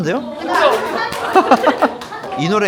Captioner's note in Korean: 박수